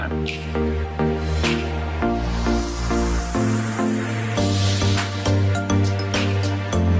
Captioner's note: upbeat music; air whooshes